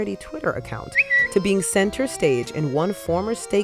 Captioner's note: bird tweets